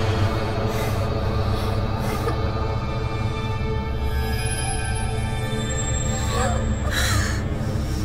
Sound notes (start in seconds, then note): 2.4 whimpering